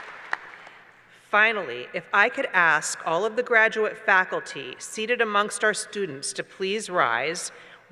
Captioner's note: applause